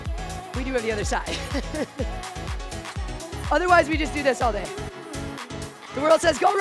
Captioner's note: laughs